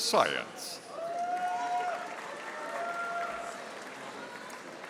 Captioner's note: audience applauding